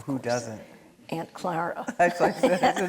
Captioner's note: laughing; audience laughing